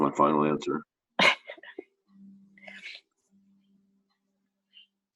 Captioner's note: chuckles